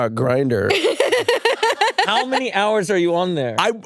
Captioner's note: laughs